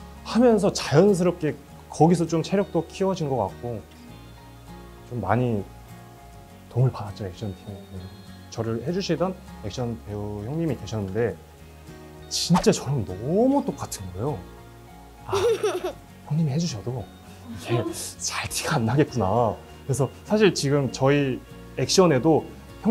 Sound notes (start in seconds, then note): 15.2 hehe